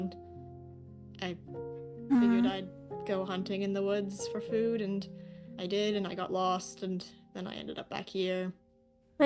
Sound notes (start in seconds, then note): 2.1 ROSE hums